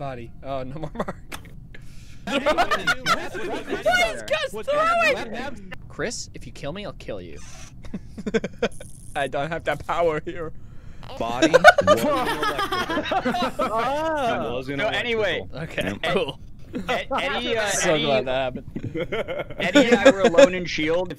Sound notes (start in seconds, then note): 2.2 laughter; 2.2 laughing; 7.8 laughter; 11.3 laughter; 18.3 laughter